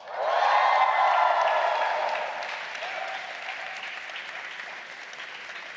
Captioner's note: audience applauding and cheering